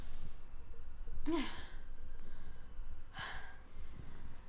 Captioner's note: Maisie gasping